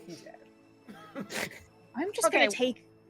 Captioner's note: all laughing